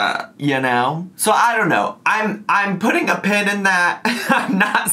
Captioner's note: laughs